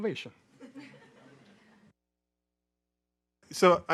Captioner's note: audience laughing